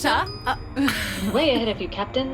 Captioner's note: the Computer tones; Aurelia WAILS, coughing and spluttering